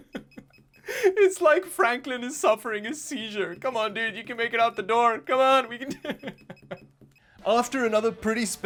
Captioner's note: laughs; laughs